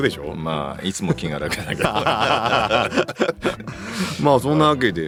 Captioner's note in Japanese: 笑い